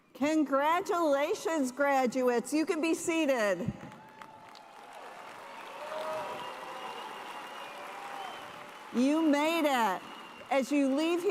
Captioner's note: cheers and applause